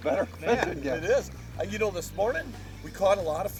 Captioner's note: voiceover